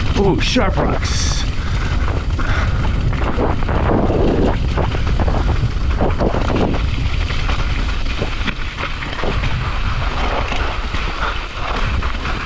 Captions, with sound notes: Ooh, sharp rocks! (tires swishing) (wind whooshing)